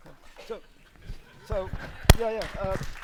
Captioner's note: laughter; applause